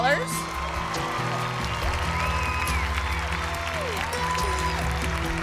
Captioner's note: clapping and cheering